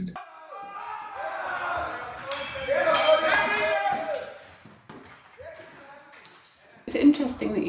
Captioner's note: men screaming and fighting while drum plays in background